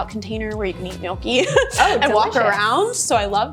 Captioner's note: giggles